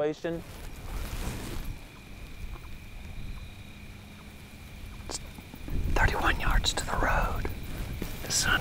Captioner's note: whispering